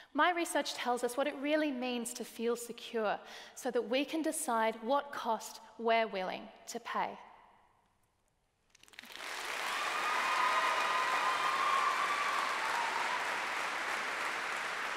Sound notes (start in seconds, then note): 8.8 applause